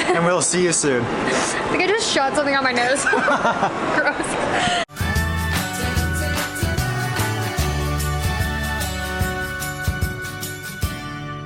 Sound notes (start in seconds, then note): 0.0 laughing; 3.0 both laughing; 4.9 light upbeat music